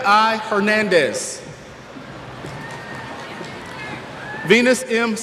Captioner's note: cheers